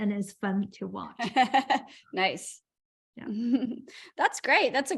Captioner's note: laughter